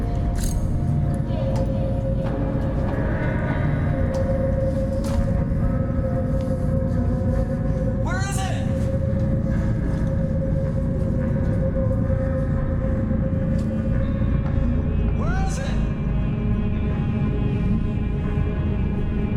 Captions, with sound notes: (cuchillo rasguños) (ominosa de la música) - ¿Dónde está? (ominosa de la música) Donde es? (ominosa de la música)